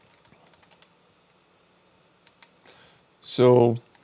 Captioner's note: keyboard clicking